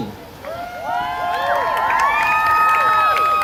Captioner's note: crowd cheering